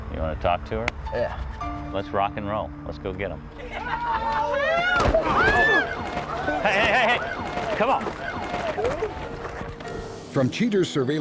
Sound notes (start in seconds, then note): 3.6 women scream; 5.0 thud